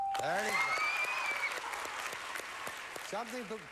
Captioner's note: audience applauding